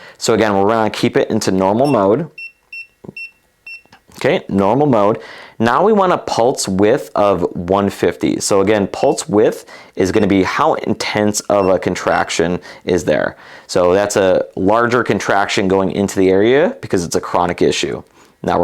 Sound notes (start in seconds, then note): 1.8 button beeping